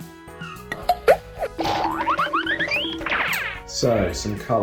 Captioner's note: objects zooming